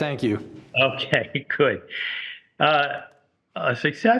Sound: laughing

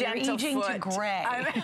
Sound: laughter

